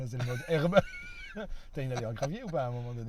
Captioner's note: laughters